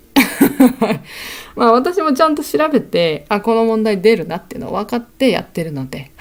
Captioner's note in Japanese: 笑い